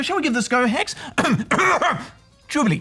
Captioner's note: clears throat